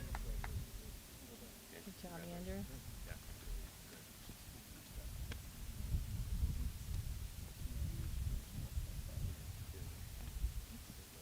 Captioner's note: applause